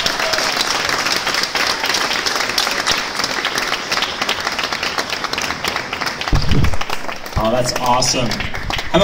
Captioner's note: audience claps